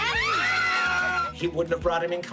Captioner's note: all screaming